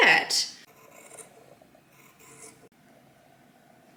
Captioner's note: light snipping sounds